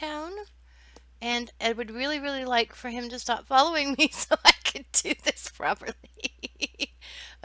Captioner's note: laughing